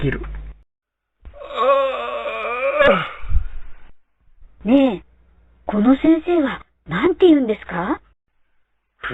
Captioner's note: yawning